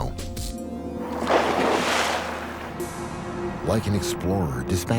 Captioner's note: splashing